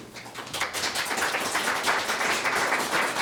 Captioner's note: all claps